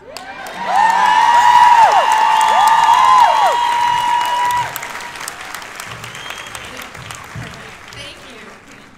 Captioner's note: raucous cheers and applause